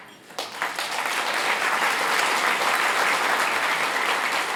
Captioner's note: applause